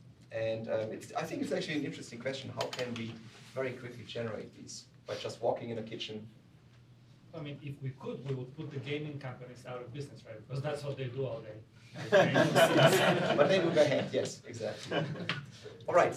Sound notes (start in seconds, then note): 11.9 laughter